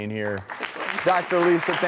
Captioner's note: applause